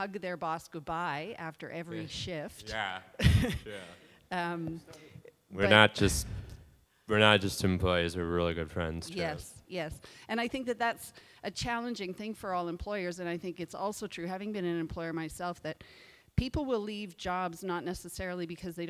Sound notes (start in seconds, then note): 3.1 laughing